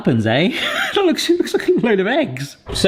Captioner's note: laughs